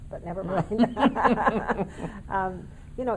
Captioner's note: laughing in unison